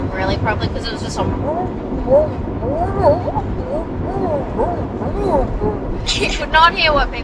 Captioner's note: giggles